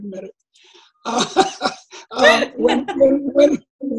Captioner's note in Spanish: Risas de ambas